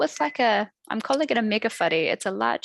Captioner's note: non-english speech